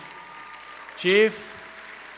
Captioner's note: applause